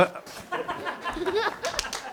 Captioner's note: background laughter